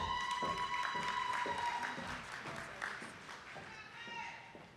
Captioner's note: audience applauding